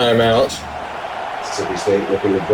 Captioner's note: crowd Noises